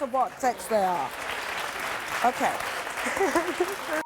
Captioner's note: audience applauding